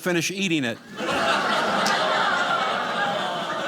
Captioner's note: audience laughing